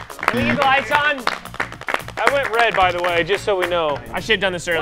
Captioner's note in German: applaus